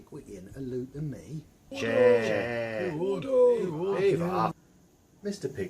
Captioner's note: cries of "Order," "Chair," "Yes," "No," "Go on," "Leave off," etc